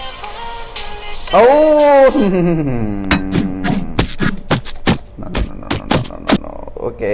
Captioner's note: finger chopping intensified #2